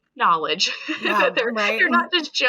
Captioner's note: laughing